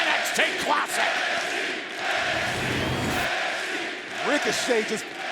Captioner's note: crowd chants "NXT"